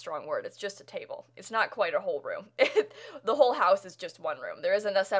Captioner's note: laughter